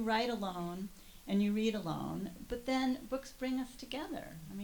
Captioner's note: none